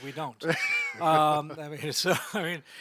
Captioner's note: laughing